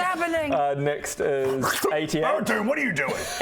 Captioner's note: slurp